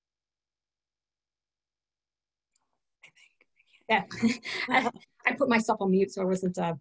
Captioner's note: whisper